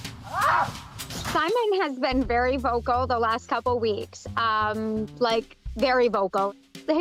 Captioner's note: goat screaming